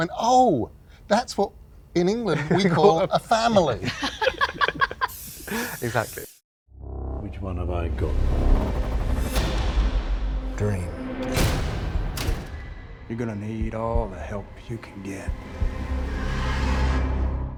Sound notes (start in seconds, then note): 4.3 laughs; 9.1 suspenseful music